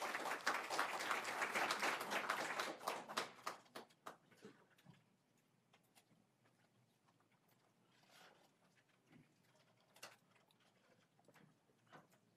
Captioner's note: applause